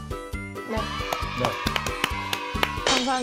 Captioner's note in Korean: 냅다 박수